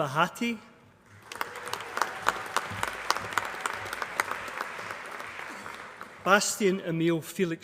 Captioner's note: applause